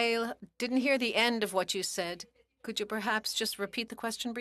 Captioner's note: speaking French